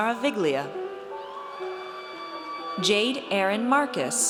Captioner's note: audience cheers